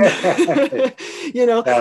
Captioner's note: laughing